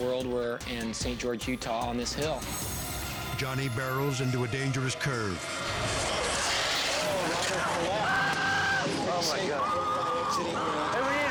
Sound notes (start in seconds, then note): 7.3 racer screams